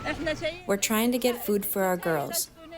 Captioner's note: through translator